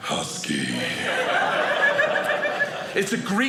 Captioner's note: audience laughing